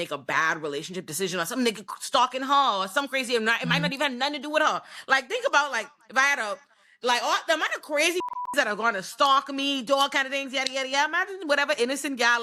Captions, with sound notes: or something that could stalk in her or something crazy, it might not even have nothing to do with her. Like think about like, if I had a, like am I the crazy (beep) that are gonna stalk me, do all kinds of things, imagine whatever innocent gal is living in my apartment.